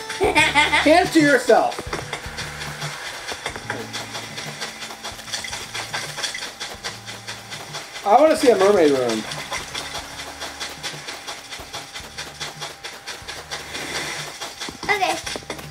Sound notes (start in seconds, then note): 0.1 laughing; 2.4 footsteps; 9.7 foot steps in sand